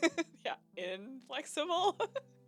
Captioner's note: laughing